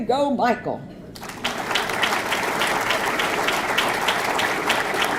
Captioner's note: audience clapping